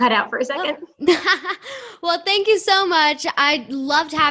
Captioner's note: laughter